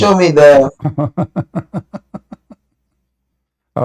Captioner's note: Ketawa